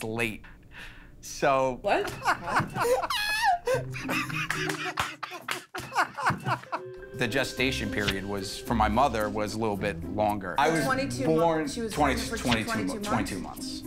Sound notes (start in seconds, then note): 2.0 laughter